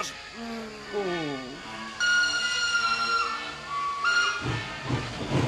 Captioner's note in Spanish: silbato